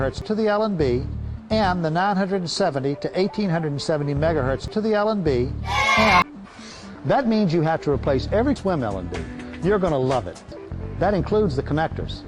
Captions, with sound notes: to the LNB, and the 970 to 1870 megahertz to the LNB... and- (Kids booing sound effect) That means you have to replace every SWM LNB. You're gonna love it! That includes the connectors.